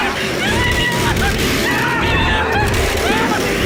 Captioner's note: chainsaw roars to life as WOMAN shrieks; more sobbing; frantic, barely coherent